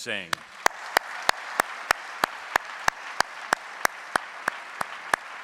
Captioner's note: audience applauding